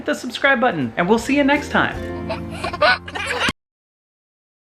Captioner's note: laughs